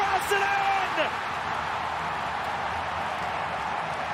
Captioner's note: crowd cheers